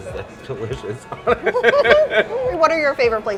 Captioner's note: laughing